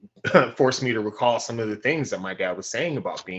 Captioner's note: laugh